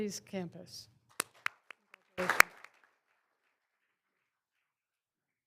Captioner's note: all applauding